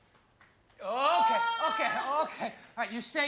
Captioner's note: screams